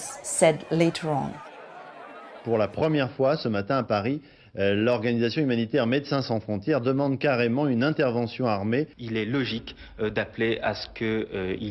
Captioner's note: speaking french